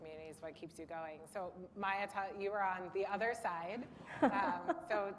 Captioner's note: laughter